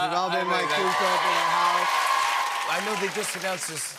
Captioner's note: cheers and applause